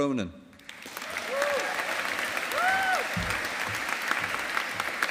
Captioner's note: audience applauding